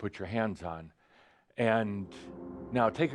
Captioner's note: droning noise begins